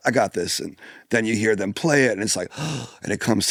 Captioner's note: gasps